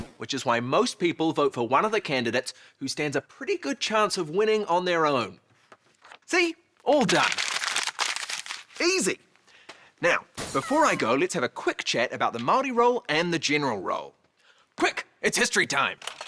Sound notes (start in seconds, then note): 6.8 paper rustles; 10.0 cat meowing